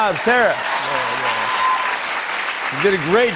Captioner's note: cheers and applause